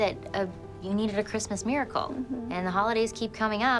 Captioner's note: Melinda hums